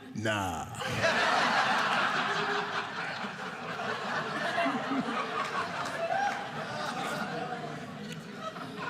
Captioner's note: audience laughing